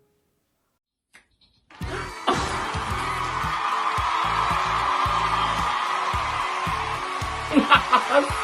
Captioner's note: crowd cheering